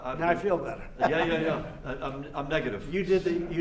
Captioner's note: laughter